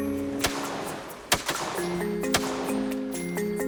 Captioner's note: gun firing